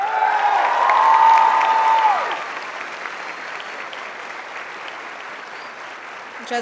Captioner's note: applauding and cheering